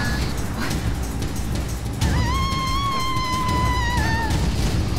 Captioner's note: screaming